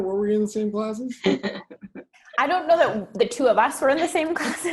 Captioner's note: laugh